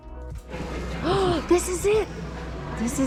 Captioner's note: gasps